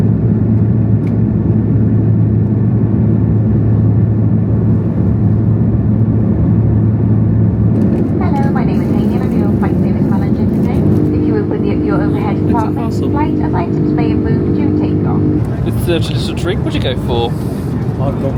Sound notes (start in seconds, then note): 5.1 jets hum